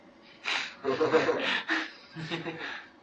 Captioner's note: laughter